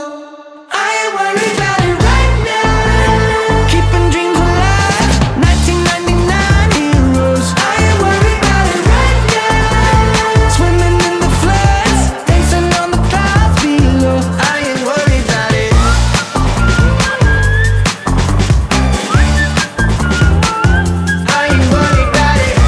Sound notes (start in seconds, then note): 15.6 whistling